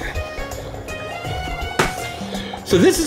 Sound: soft upbeat music; bubbling

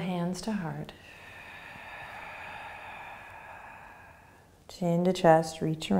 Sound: exhaling

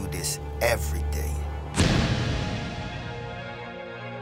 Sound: trunk closes

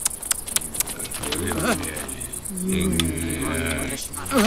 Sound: people chattering; woman tongue-clucking

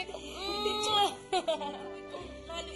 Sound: Beverly laughs

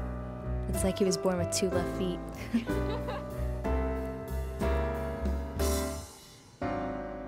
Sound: laughs

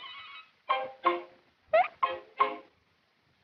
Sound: hiccups

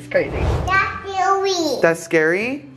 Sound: baby talk

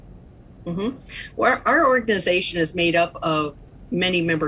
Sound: agreeing sound

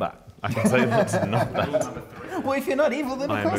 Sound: laughs

